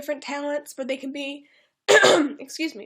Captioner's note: clears throat